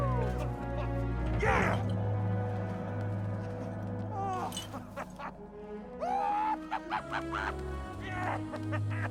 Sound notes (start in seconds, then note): 2.2 laughs joyfully